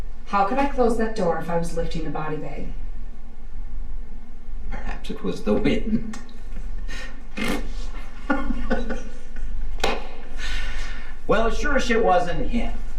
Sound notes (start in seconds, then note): 6.4 laughs; 7.2 Torrez blows raspberry; 8.5 Torrez laughs